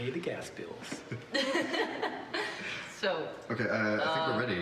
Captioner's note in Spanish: riendo